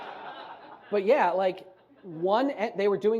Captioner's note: audience laughs